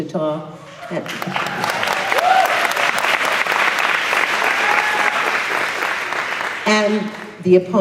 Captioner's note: applause